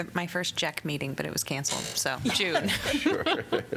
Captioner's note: laughter